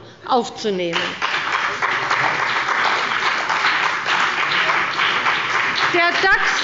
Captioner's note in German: Beifall bei der CDU und dem BÜNDNIS 90/DIE GRÜNEN